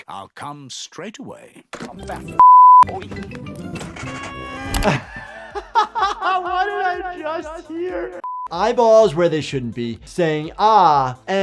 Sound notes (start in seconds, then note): 4.4 doctor laughs